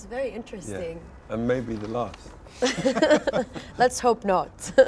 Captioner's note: laughs